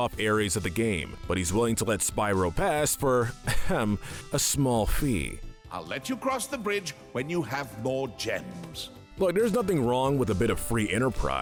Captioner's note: ahem